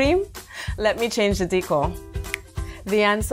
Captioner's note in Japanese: 指を鳴らす